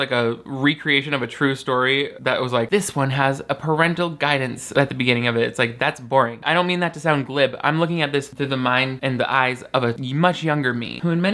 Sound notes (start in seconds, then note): none